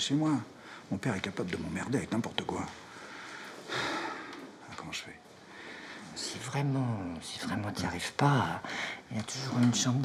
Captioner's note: sigh